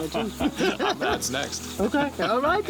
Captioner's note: laughing